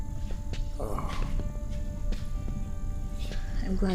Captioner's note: Bolo groans